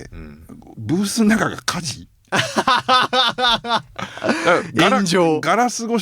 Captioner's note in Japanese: 笑い